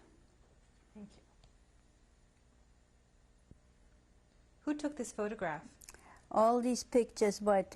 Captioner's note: pauses for 3 seconds